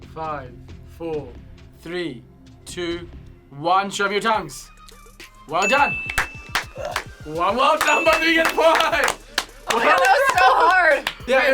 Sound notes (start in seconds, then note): 5.5 upbeat music; 5.6 bell dings; 7.7 claps; 7.8 bell dings